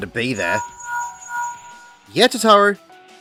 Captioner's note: linkshell ringing